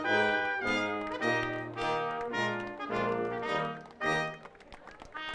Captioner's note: audience applauding